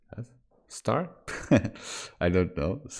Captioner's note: chuckles